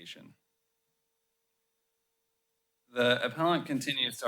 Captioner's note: pause